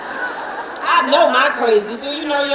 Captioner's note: laughing